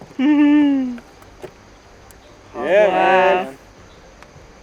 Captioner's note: excited